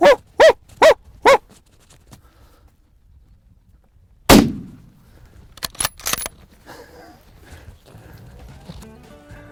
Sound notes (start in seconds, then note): 0.0 barking; 4.3 gunshot